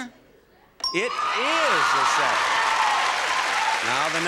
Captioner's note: audience applauding